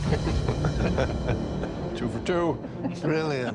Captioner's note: chuckling